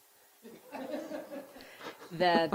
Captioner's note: giggling lightly